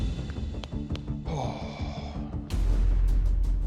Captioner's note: sighs deeply